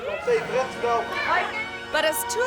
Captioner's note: onlooker laughs; friends chattering